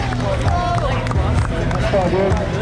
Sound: clapping

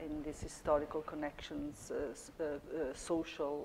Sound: none

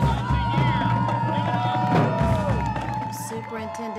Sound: cheering

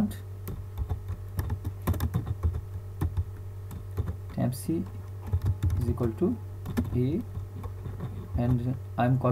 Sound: typing Sound

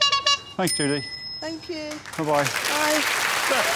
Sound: air horn honks

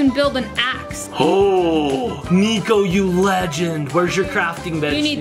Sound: gasps

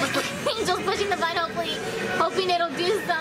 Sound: laughing

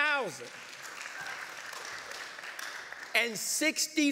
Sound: light applause

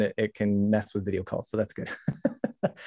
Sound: chuckles

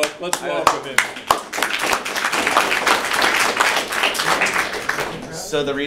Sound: applause

